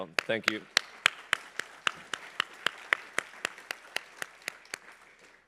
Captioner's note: applause